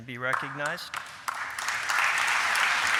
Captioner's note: applause